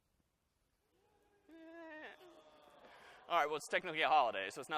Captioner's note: groaning